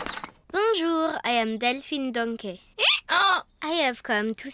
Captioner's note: brays